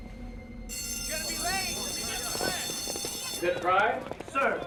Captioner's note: school Bell Ringing